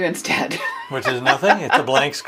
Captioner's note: chuckles